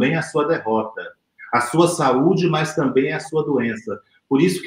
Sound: speaks portuguese

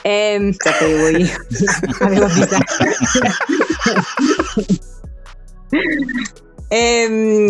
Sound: laughs

